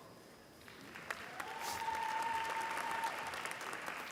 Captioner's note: applause